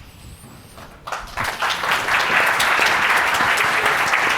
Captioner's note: audience clapping